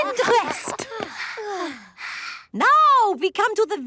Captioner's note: panting